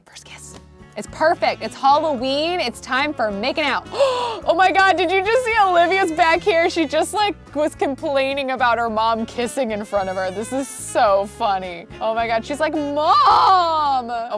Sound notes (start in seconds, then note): 0.5 sensual music; 3.9 gasping